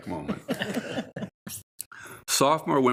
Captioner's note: all laughing